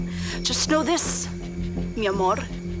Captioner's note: speaking Spanish